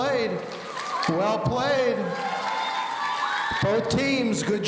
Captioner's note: audience cheering